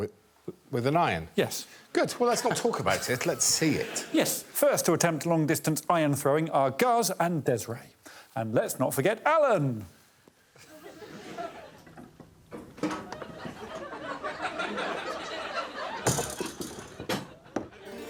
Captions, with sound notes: -With an iron. -Yes. Good, well, let's not talk about it, let's see it. Yes, first to attempt long distance iron throwing are Guz and Desiree and let's not forget Alan. [audience laughing] -[iron clunking against table] -[audience tittering] -[coiled metal boinging] -[audience laughing]